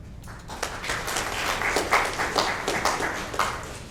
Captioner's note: audience applauds